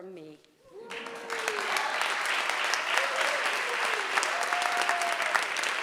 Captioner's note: audience cheering and applauding